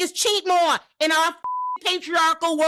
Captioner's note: beep